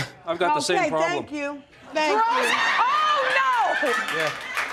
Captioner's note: audience laughing